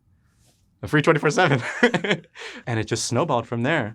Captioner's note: laughs